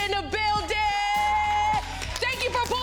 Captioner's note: crowd cheers and claps